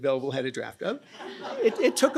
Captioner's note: laughter